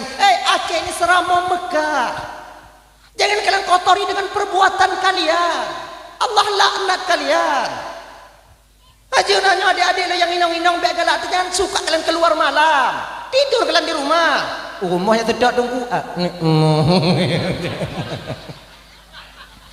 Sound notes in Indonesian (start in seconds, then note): 7.7 tertawa; 16.4 tertawa